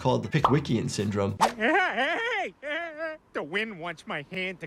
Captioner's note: Peter laughs